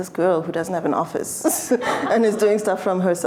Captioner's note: laughter